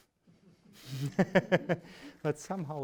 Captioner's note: laughs